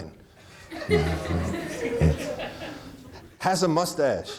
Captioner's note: audience laughing; chuckles